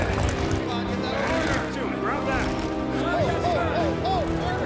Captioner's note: soldiers shouting